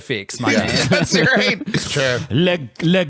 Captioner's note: laughs